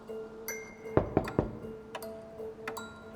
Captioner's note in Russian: стук в дверь